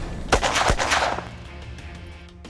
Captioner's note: gun shots